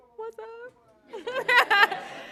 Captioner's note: laughter